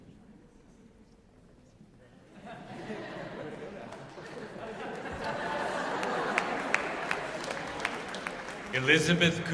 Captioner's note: laughter